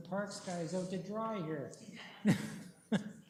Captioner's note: chuckles